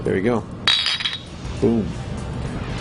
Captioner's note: bottles click